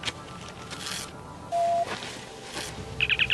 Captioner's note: communicator chirps